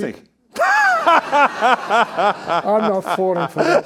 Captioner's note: all laughing